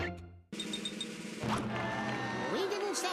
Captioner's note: crowd jeering